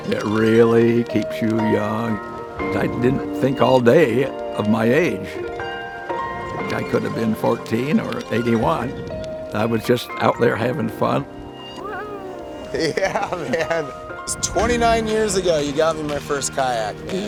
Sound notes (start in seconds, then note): 12.7 laughs